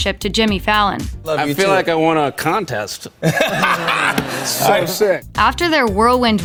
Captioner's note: laughs